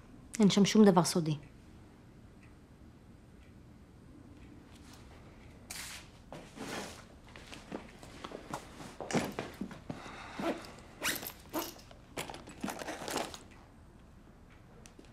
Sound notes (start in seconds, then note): 10.5 zipper opening